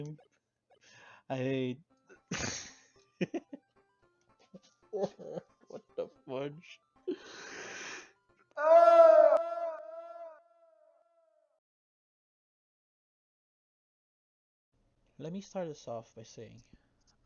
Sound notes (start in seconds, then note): 2.1 laughs; 4.9 cries in defeat; 7.1 breath; 8.5 screams in despair